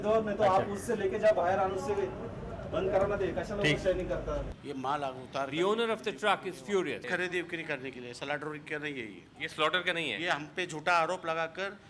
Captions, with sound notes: The owner of the truck is furious. [SPEAKING HINDI]